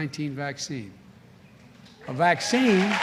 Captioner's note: applause